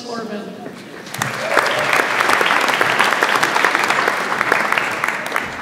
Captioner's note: audience applauds